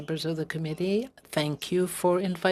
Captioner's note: speaking French